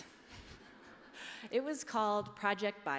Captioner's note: laughter